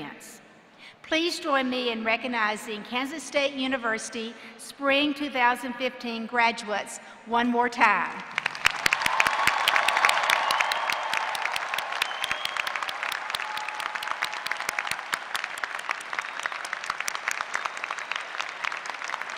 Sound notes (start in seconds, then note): 8.1 applause